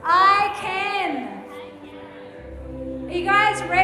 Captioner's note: group murmuring